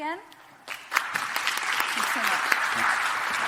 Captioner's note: audience claps